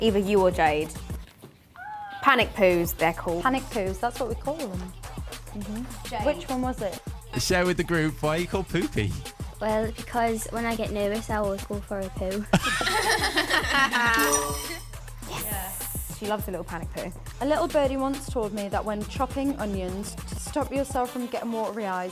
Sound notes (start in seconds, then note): 12.5 laughter